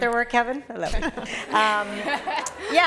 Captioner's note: laughter